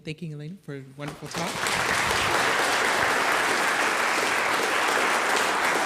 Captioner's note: audience applauding